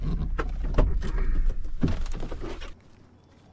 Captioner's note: doors open